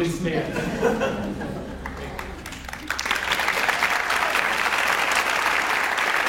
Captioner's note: audience laughs; audience applauds